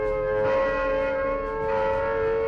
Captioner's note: alarm blaring